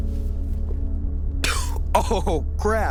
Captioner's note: melancholic music; Jack coughs